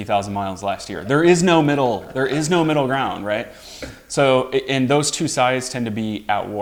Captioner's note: laughs